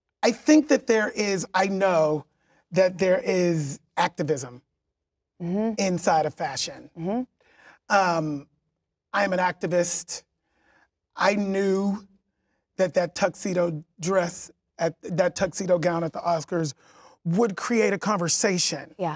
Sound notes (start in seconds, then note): none